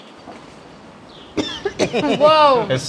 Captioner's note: coughing